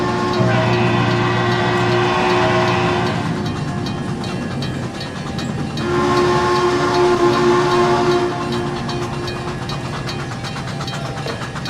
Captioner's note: RDC horn, Frisco 1522 whistle